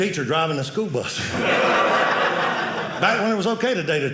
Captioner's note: audience laughing